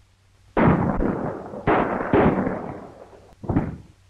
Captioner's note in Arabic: إطلاق النار من البنادق